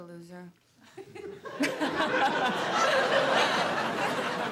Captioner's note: laughs